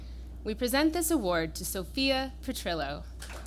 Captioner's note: applause